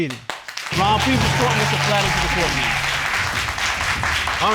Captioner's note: audience applauding